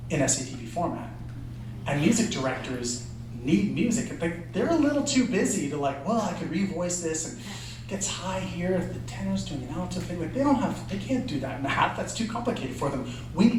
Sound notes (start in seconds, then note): none